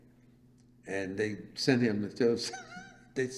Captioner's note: laughs